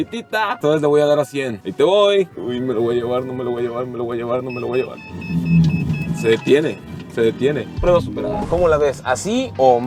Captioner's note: alarm beeping